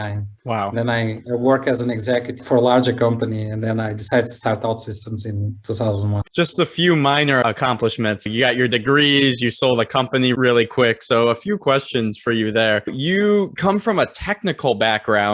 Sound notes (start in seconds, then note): 6.4 sarcastically